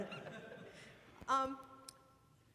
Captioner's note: laughing